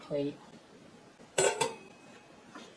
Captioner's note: clank